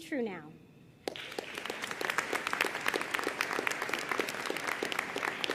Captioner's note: audience applauding